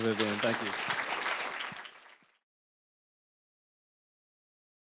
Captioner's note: applause